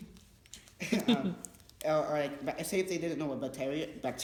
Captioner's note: laughs